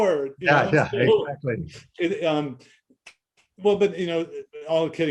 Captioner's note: laughing